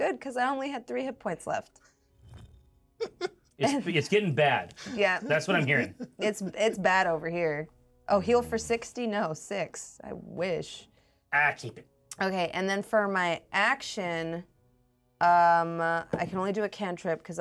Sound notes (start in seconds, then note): 3.0 speaker laughs; 4.8 speaker laughs